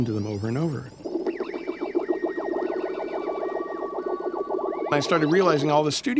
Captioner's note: sci-fi beeps and tones